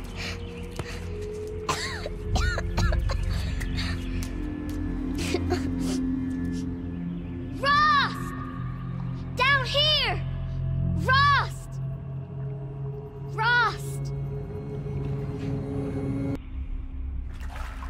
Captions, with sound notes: (Aloy coughing) - Rost! Down here! Rost! Rost! (ominous music)